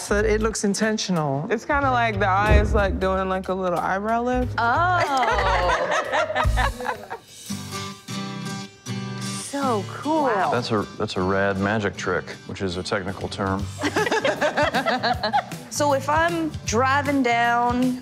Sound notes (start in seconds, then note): 5.0 laughter; 13.8 laughter